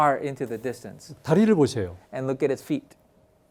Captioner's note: speaking in Korean